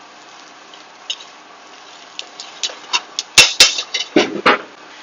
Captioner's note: loud clanging of metal tongs on the iron cast skillet